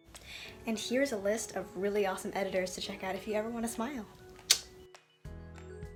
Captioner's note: clicks tongue